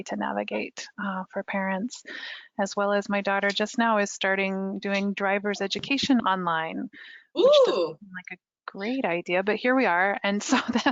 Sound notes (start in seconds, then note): 7.4 marvels; 10.6 laughs